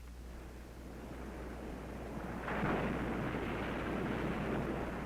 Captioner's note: ocean waves crashing